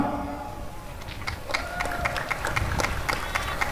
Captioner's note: applause and cheering